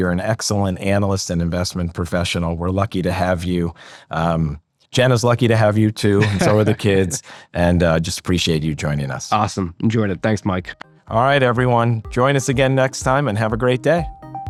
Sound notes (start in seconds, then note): 6.0 laughing